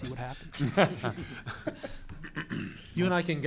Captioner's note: laughter